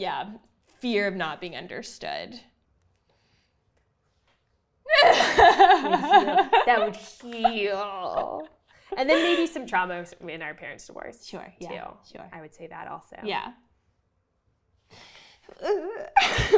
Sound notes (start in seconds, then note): 4.9 laughing